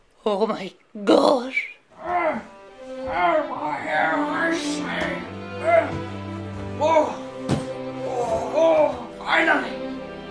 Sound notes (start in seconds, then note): 2.0 grunting; 5.4 grunting